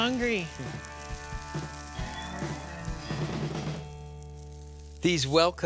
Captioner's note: sizzling